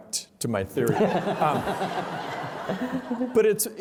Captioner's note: laughter